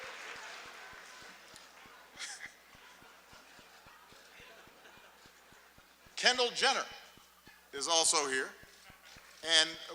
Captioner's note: laughter, applause